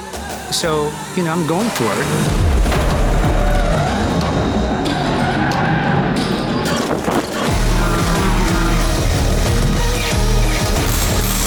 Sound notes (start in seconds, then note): 2.5 dramatic upbeat music; 2.7 tires screeching; 7.1 dramatic upbeat music continues